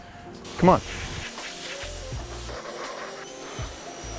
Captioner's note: washer whirring